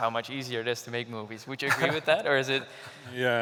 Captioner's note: laughs